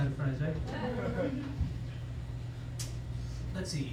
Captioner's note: laughter